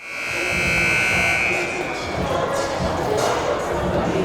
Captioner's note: timer buzzes